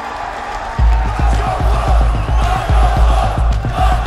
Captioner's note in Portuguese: torcida cantando